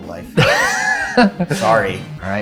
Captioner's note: laughing